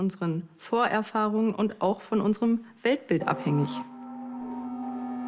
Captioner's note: speaks in German